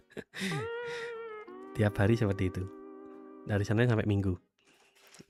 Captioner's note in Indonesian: tertawa; terkesiap